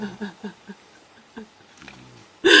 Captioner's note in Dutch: huilt